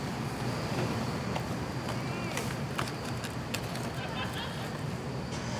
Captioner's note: crowd distantly chattering